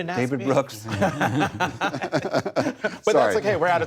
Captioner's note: laughter